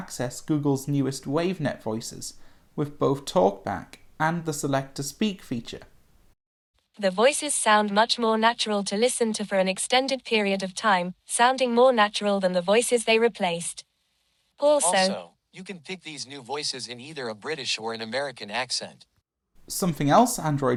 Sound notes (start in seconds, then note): 6.2 british voice; 14.3 changes to american voice